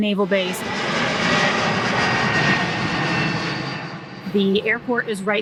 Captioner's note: jet engine roaring